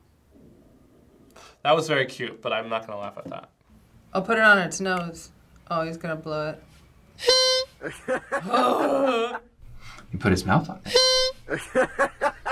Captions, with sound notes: That was very cute, but I'm not gonna laugh at that. - Oh, put it on its nose. Oh, he's gonna blow it. (horn honks) (grunts) - He put his mouth on it. (horn honks)